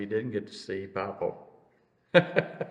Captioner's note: laughs